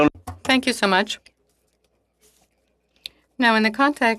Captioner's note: speaking French